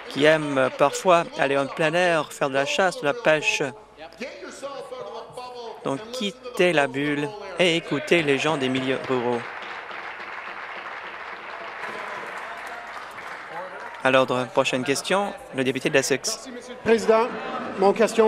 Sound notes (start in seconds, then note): 13.4 applause